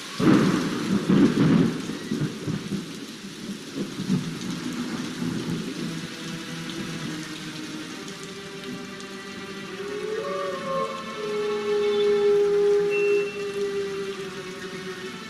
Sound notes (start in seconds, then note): 0.0 rain pattering; 0.1 thunder rumbling; 3.4 rain pattering; 6.7 thrilling music; 9.6 animal howling